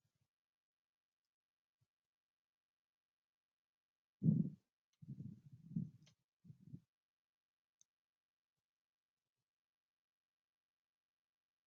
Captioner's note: 13 seconds pause